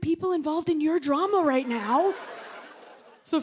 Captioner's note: laughter